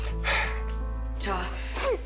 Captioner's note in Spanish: Sollozos